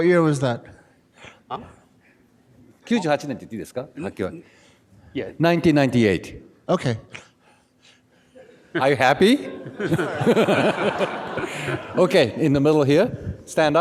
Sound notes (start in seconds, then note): 3.0 speaks in foreign language; 9.4 audience laughing